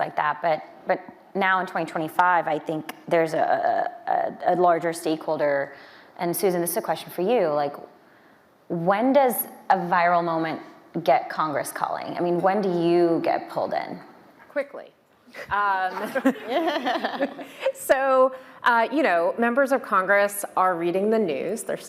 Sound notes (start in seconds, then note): 15.9 panelists laughing